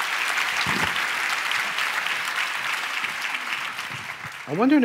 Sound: cheers and applause

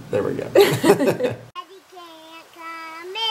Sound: both laugh

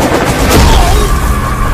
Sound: thuds

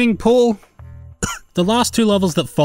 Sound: cough

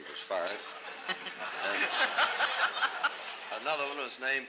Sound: laughter

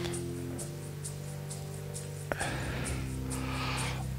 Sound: sighs

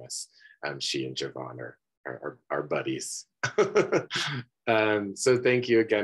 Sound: laughs

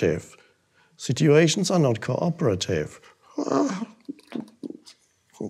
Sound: babbles

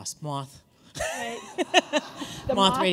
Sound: laughter

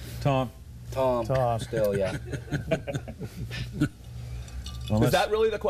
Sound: laughter

